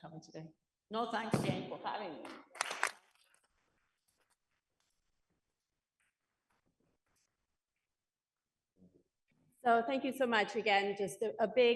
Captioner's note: applause